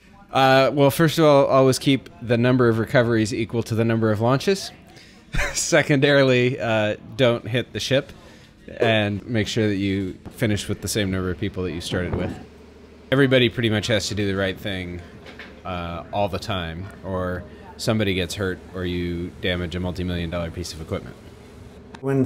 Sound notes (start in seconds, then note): 4.7 laughs